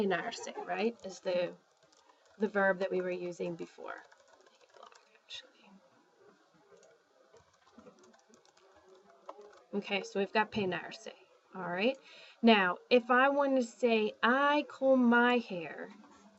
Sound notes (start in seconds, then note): 10.3 spanish